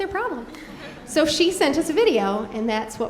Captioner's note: audience laughing